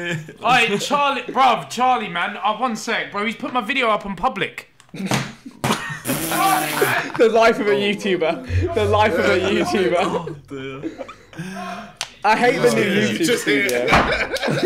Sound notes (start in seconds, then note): 5.4 laughing; 8.7 shouting in background